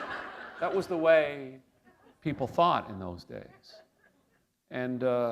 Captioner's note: laughter